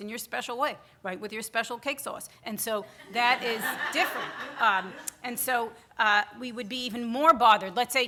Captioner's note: audience laughter